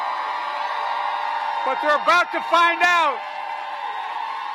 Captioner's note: applause